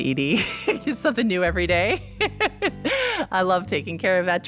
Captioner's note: laughs